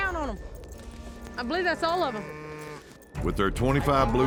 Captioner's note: cattle mooing